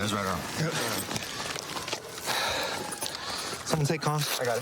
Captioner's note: sirens blaring